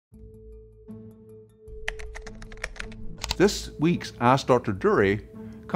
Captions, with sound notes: (gentle music) (keyboard clacking) - This week's Ask Dr. Durie